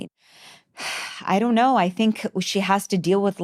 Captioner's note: sighs